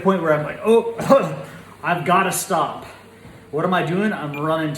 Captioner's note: groans